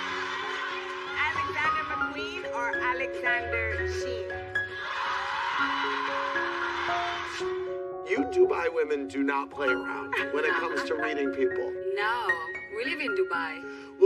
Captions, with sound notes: [laughter] - Alexander McQueen or Alexander Shein? [cheering] - You Dubai women do not play around, when it comes to reading people. - No, no. We live in Dubai.